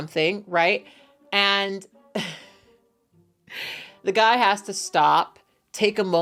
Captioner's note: laughs